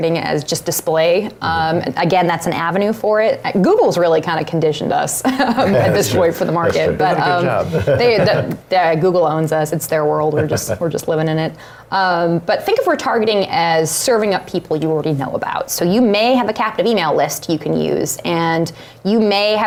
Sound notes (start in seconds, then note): 5.3 laughs